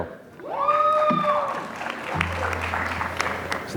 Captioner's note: applause